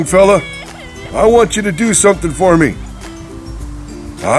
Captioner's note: sister crying